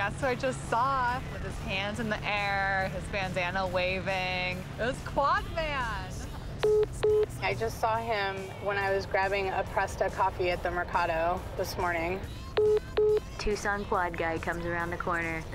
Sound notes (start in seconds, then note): 6.6 phone message beeping; 12.6 phone message beeping